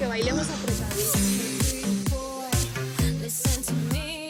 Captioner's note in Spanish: Risas